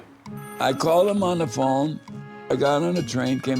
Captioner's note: telephone ringing; train warning bell chiming